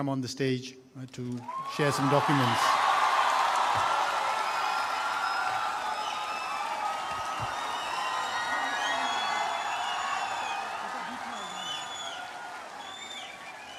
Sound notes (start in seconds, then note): 10.8 laughter